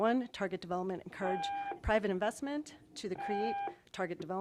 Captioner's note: tone